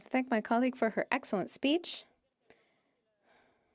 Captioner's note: speaking French